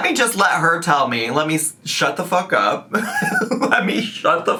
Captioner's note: laughs